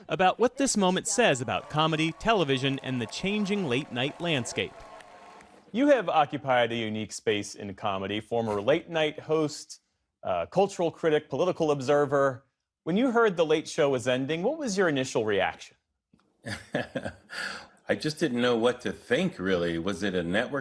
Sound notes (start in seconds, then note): 16.4 laughter